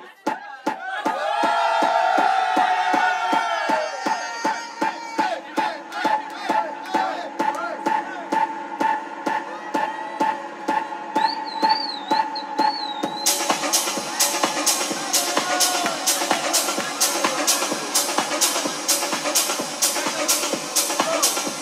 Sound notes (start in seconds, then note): 0.0 rhythmic bouncing; 0.2 rhythmic bouncing continues; 13.3 upbeat techno music; 16.5 upbeat techno music continues